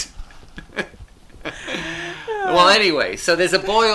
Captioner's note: both laughing